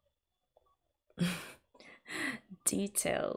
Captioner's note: laughs